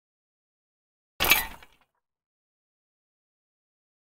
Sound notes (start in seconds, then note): 1.2 sound of gear mech item